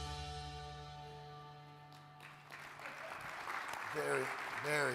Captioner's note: upbeat music; audience claps